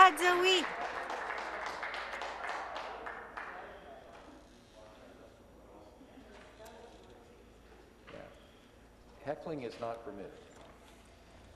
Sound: applause

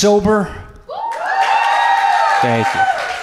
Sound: audience cheers

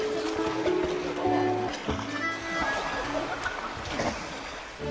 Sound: water splashing

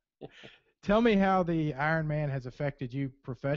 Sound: voiceover

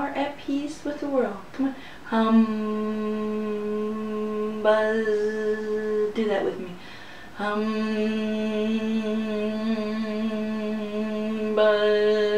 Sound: humming sounds; buzzing sounds

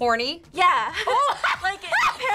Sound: laughs

